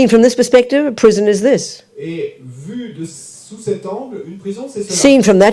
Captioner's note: French